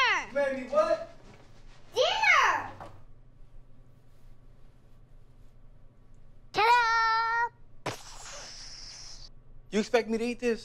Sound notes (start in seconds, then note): 6.7 imitates explosion